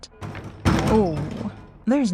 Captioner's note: banging on Other Side of Window